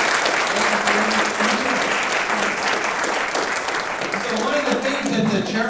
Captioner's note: audience applauding; audience applauding drowning out speaker